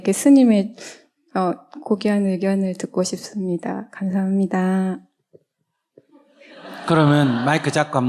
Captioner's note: audience Laughter